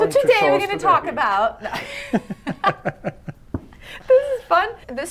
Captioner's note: laughing